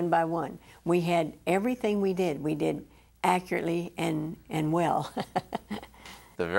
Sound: chuckles

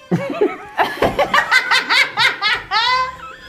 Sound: all laugh

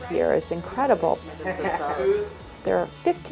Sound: laughter

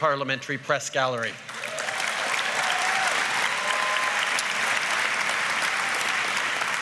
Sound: cheers & applause

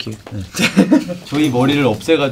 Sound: laughs

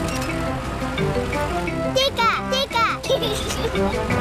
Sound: giggles

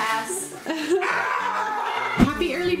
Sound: yelling

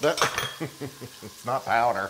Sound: laugh

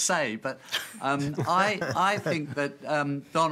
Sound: laughter

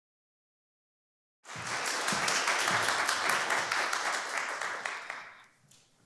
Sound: applause

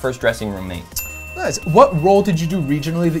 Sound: bell dings

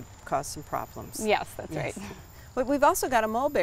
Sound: chuckles

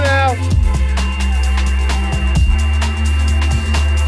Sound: beeping

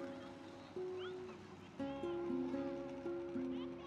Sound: kids scream

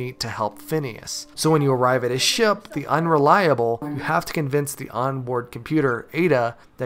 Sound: haha

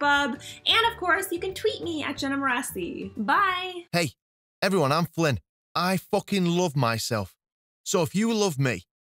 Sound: flippant Male Voice

